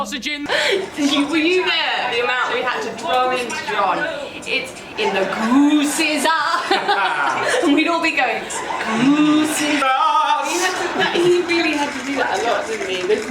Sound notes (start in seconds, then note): 6.9 laughs